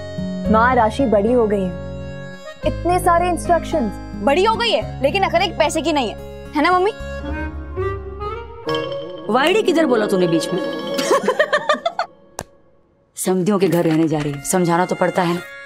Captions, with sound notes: Mother, Rashi is a grown-up. But still, you are giving her so many instructions. Though she's grown up, she lacks common sense. Am I right, mom? [comical music] You missed the word 'moron'. [laughing] She's going to live with her relatives. I must instruct her.